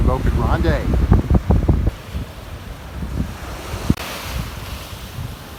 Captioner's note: wind blowing; waves crashing